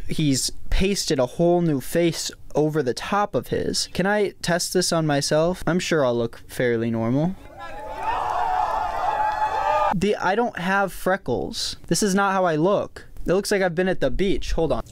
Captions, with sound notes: he's pasted a whole new face over the top of his. Can I test this on myself? I'm sure I'll look fairly normal. (cheering) I don't have freckles. This is not how I look. It looks like I've been at the beach. Hold on.